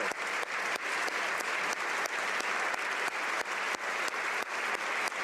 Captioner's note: applause